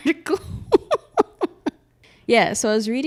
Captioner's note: laughs